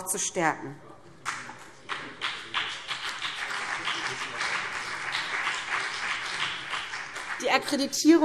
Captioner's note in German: Beifall BÜNDNIS 90/DIE GRÜNEN